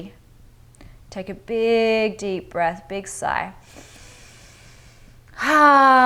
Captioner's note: inhales breath